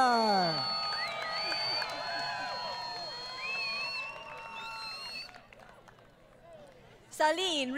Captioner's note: crowd Cheering